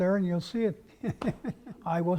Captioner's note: laugh